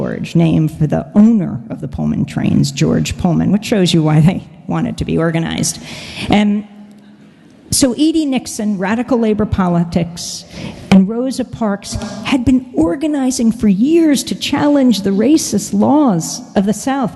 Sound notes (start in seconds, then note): none